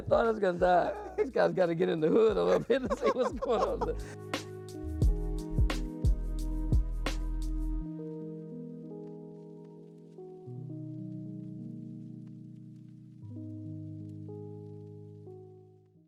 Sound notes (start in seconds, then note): 0.1 laughing; 2.3 upbeat music